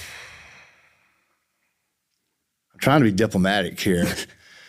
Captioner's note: sighs